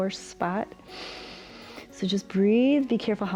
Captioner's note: inhales